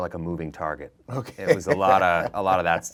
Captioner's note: laughing